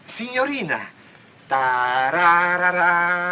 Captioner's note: humming